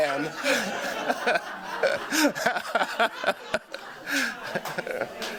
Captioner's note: all laughing